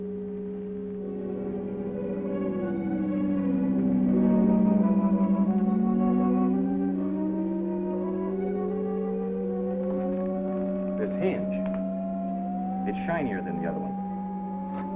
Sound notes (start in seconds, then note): 7.0 humming intensifies